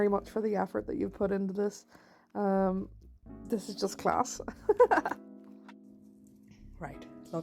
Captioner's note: laughs